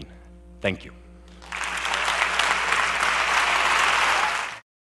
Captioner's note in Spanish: Aplausos